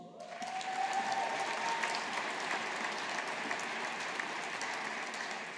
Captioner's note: audience applauding